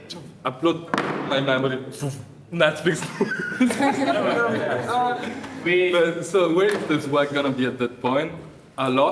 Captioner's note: laughter